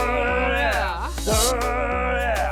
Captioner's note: uncomfortable sound effect